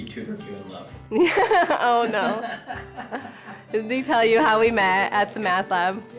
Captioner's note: laughs